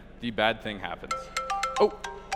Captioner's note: phone ringing